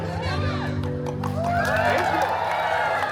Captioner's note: guests cheering and chuckling; guests cheering and applauding; claps; guests cheering and applauding